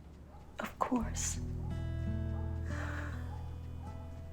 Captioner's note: dog barking